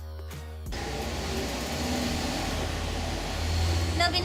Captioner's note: noisy cars ¬.¬